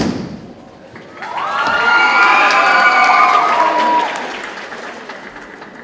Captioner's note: audience cheering and applauding